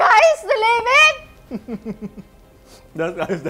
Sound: laughs

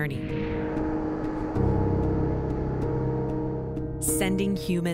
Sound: machine buzzing

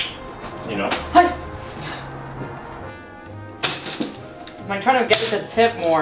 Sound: leaves rustle; gasps

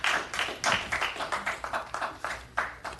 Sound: applause

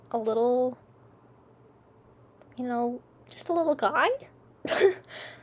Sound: smol laugh

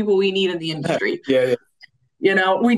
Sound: chuckles

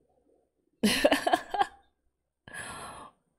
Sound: laughs

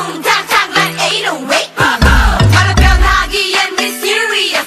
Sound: boom; boom boom

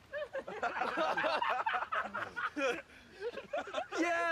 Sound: laugh

